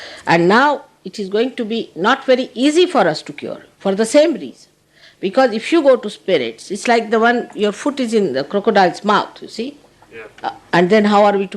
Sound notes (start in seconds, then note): none